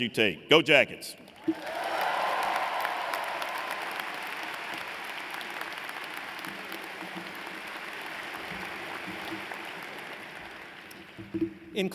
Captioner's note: applause